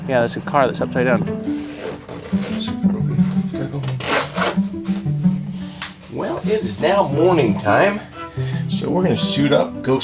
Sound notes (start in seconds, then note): 1.6 zipper zooming; 5.8 fastener clicking